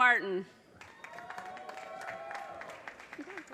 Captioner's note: audience cheers and applause